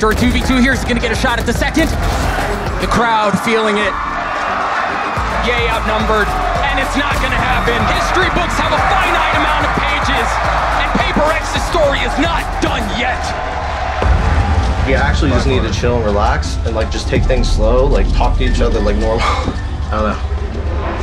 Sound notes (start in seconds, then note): 3.9 crowd cheering